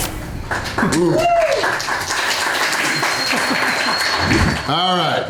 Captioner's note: crowd applause